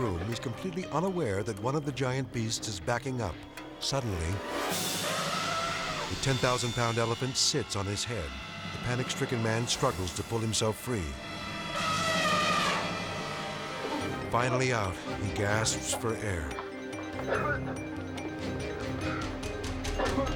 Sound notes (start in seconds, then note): 4.8 elephant trumpeting; 11.3 elephant trumpeting; 17.1 worker coughing